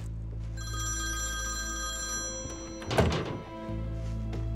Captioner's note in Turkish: Telefon çalıyor